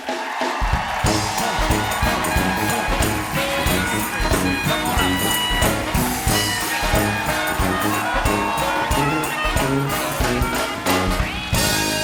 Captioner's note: band playing; cheers and applause